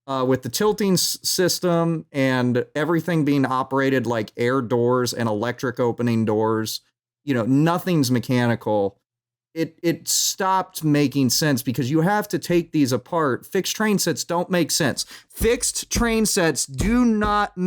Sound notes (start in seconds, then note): 15.4 thumps table